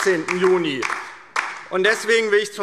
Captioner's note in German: Beifall DIE LINKE - Zurufe AfD